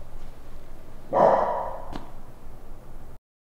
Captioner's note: Boost Dog barking, but distant